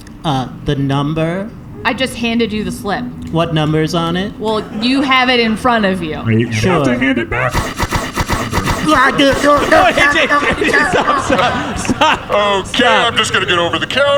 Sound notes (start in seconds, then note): 8.5 the employee makes some goofy yelping sounds